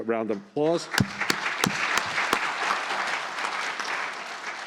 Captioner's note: applause